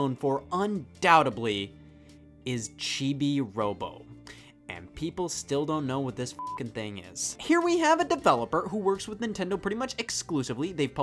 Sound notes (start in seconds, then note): 6.4 beeps